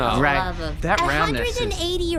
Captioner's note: Pleck sighs